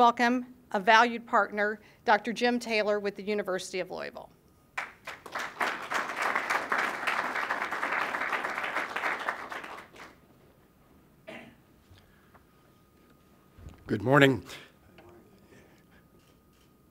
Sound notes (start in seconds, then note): 4.7 applause